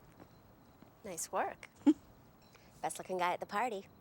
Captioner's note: chuckles